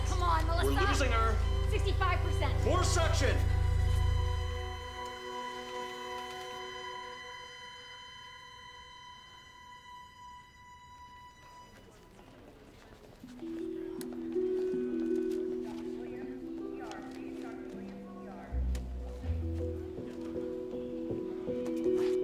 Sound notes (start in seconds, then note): 3.1 steady tone beeping; 5.5 flatline blaring